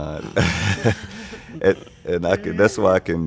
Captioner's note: laughing